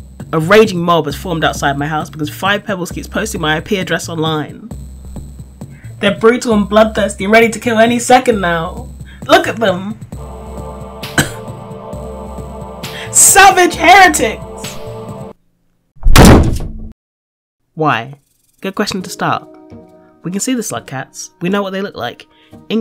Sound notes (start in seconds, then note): 11.1 single cough from crowd; 16.0 window Slam